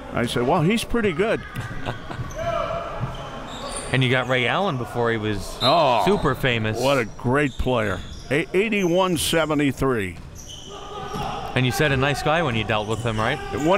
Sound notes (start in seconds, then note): 1.5 laughing